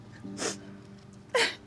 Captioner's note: sobbing